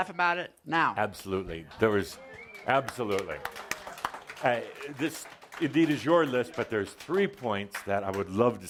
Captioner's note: some applause